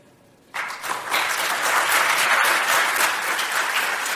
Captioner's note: applause